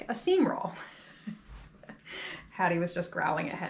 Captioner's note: chuckles